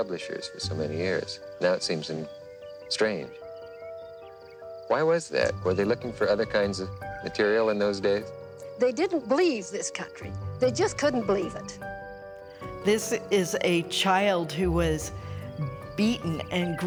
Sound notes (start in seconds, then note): 3.5 birds chirping; 11.9 bright music